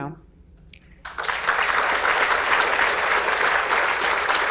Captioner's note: audience applauds